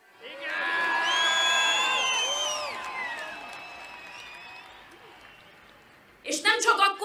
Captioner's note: whistles